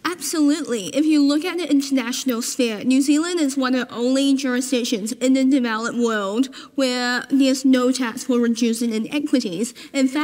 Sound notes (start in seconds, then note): none